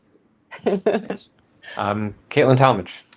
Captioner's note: laughs